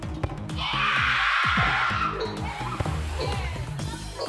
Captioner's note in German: Sie schreien